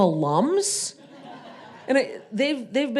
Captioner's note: audience laughing